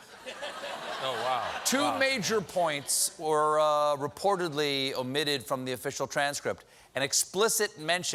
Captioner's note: laughter